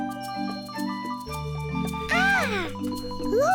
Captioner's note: chimes tinkling